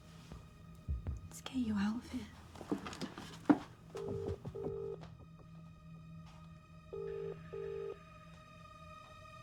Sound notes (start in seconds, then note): 4.0 phone line ringing